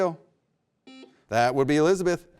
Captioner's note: buzzer beeps